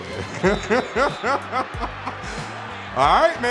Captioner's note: whistle blowing